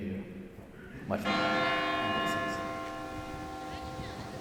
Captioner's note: bell booming